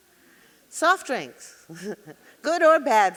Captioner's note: chuckling